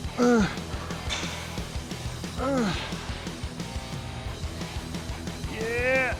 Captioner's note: upbeat rock music continues; Sheamus grunting